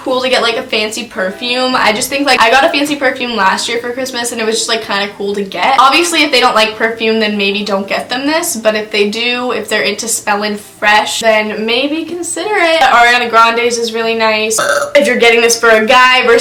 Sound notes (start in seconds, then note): 14.5 burps